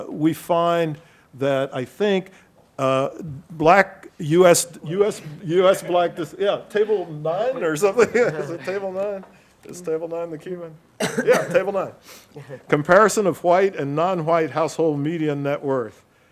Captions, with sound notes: we find that I think, US black... Yeah, table nine or something. (laughs) Is it table nine? Is table nine the Cuban? Yeah, table nine. (participant coughs) Comparison of white and non-white household media net worth.